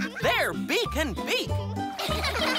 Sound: laughing

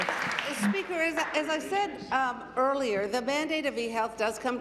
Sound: applause

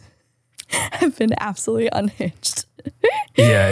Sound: laughs

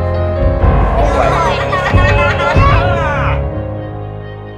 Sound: gentle music; kids laughing

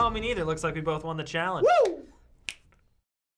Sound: fingers snap

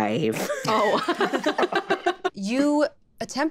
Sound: group laughing

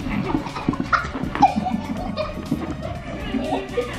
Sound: kids giggling

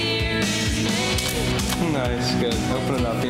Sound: shutter clicks

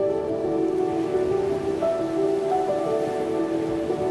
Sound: soft music; ocean waves splashing

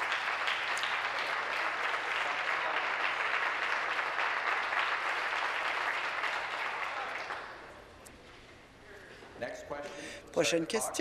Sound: applause

